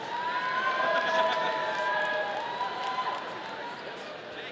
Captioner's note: audience cheering